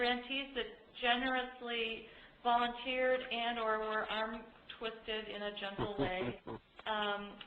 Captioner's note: chuckle